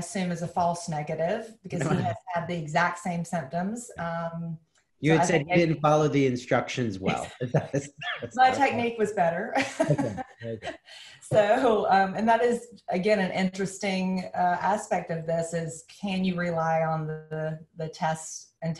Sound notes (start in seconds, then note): 9.6 laughs